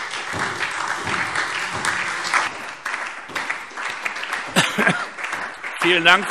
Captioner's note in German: Beifall SPD, Freie Demokraten und DIE LINKE